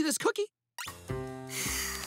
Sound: sighing

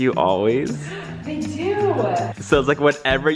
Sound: gasps

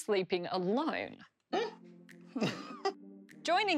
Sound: laughter

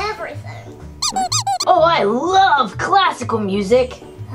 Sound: squeaking

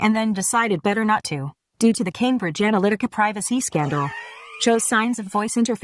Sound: Alexa laughing

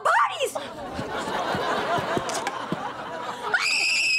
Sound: screaming

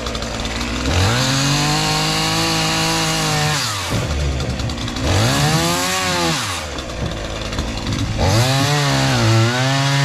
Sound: sawing

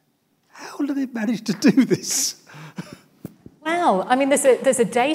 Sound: laughs

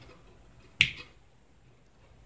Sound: click

